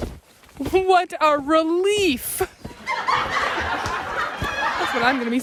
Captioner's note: audience laughs